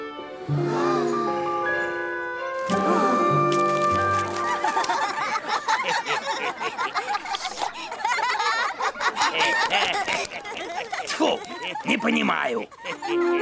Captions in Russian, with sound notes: *Все смеются* -Тьфу, не понимаю!